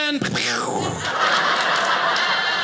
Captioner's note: audience laughing